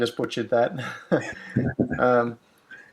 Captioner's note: laughs